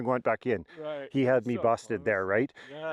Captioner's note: nervous laughing